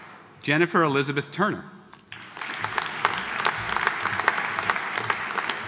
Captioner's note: audience applauding